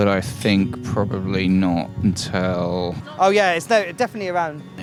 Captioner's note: none